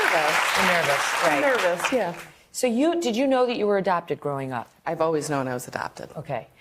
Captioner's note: applause